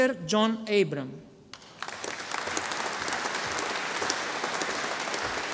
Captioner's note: audience applauding